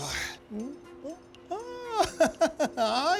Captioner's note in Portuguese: Homem ri